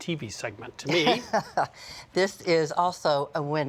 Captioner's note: laughs